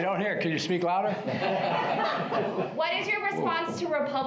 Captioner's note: laughter